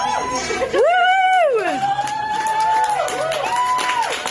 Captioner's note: staff cheering; staff clapping